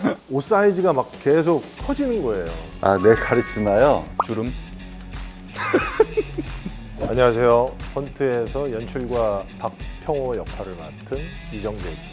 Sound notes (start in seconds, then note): 5.5 laughs